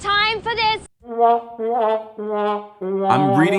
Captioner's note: sad trombone effect